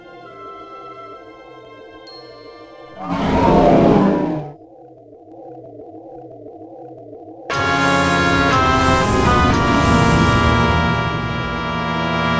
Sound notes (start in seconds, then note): 3.0 Majora's Mask Roaring